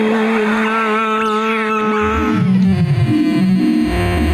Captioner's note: electronics screeching